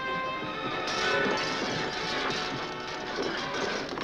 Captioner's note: glass breaking